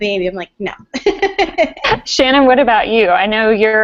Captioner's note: laugh